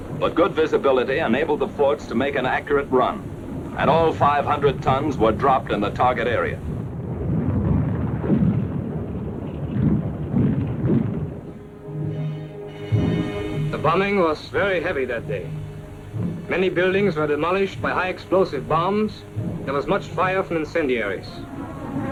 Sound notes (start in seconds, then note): 8.1 bombs exploding in distance; 13.5 German-accented voice